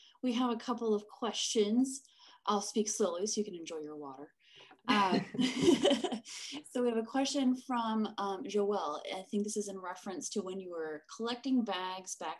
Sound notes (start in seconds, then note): 5.0 laughter